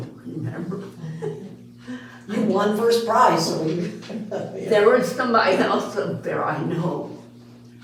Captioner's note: laughing